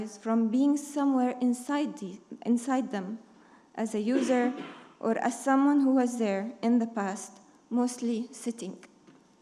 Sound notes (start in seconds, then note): 4.1 attendee coughing